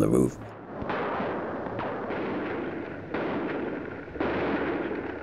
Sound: gunfire

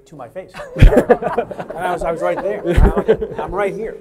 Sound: laughing

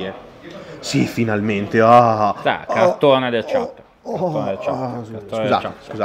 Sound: moans

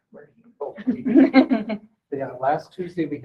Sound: person laughing

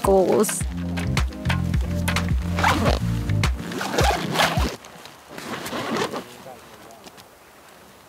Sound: zipper noises

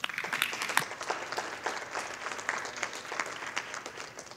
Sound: audience applauding

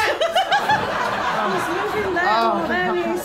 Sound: laughter

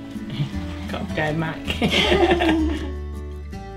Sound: laugh

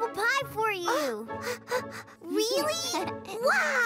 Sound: gasps; chuckles

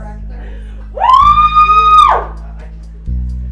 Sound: partygoer screams

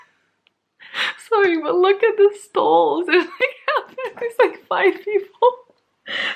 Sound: laughing

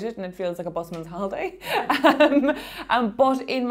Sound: laughing

